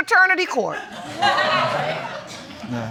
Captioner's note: audience laughing